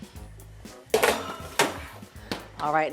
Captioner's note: pan clatters